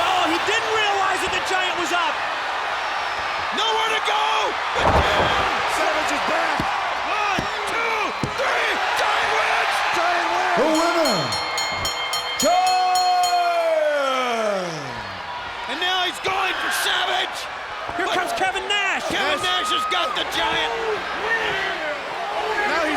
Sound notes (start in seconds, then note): 10.6 bell rings